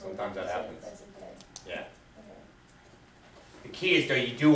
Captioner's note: voiceover